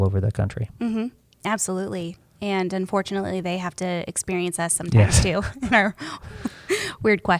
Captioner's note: chuckles